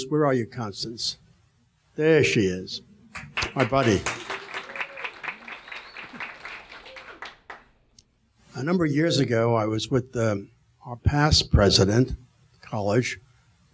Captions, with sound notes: Where are you, Constance? There she is. (audience applauding) My buddy. A number of years ago, I was with our past president, Kalish